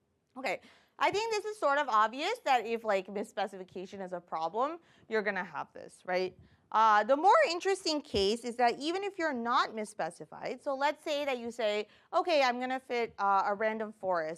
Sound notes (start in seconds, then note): none